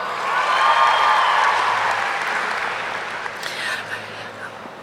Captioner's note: audience cheering